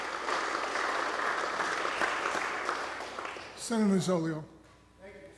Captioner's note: applause